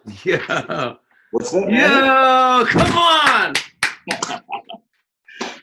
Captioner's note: laughs